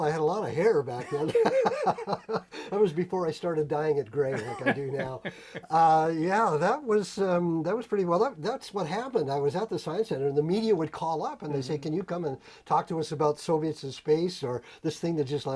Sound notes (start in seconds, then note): 2.7 laughter